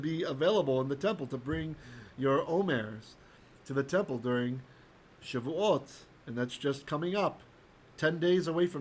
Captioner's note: Hebrew